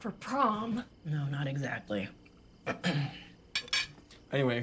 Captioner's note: clears throat